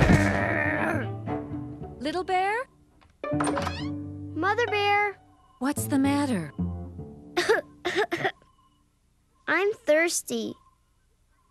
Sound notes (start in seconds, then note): 4.9 coughing